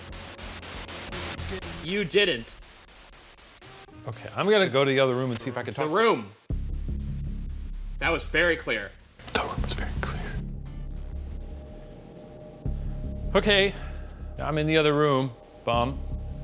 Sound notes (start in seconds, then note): 0.0 white noise; 6.5 suspenseful music; 10.8 suspenseful music